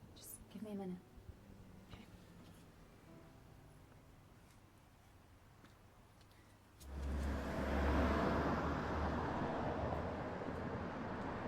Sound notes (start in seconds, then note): 3.0 gentle piano music continues; 6.8 traffic humming